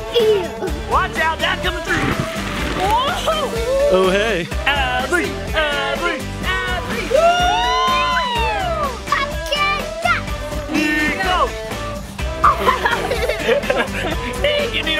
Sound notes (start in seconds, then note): 6.9 everyone cheering; 11.9 upbeat music; 12.4 everyone laughing